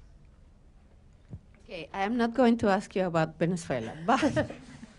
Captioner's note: laughter